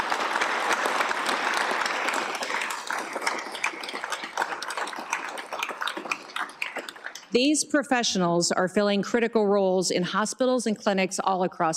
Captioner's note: applause